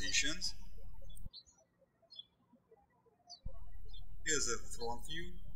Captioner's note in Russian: птички щебечут